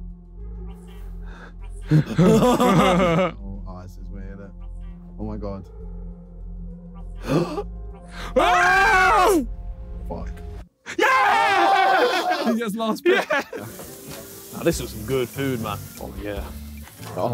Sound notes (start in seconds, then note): 1.8 all laughing; 8.0 gasping; 8.2 screaming; 10.8 cheering; 13.1 plates sizzling